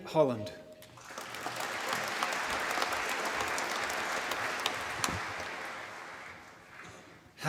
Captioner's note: applause